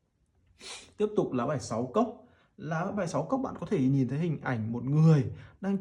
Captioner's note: sniffs